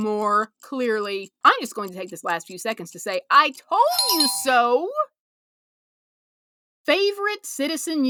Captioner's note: bell